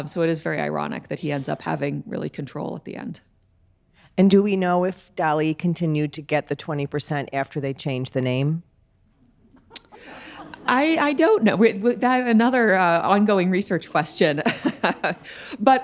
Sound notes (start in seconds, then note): 9.6 audience laughing; 14.4 laughing